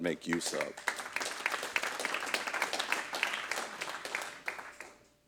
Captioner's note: audience clapping